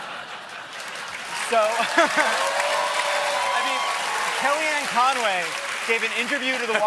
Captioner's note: cheers and applause